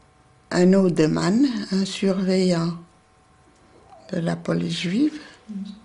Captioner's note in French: langue étrangère